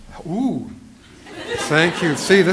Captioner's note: laughter